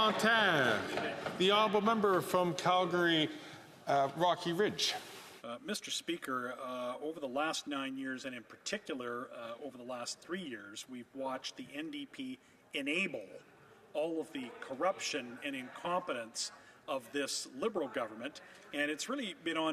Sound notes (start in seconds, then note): 0.1 some Applause; 3.5 SpeakingFrench